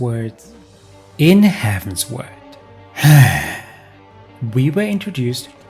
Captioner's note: sigh